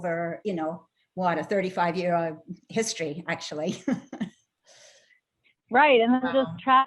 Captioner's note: chuckles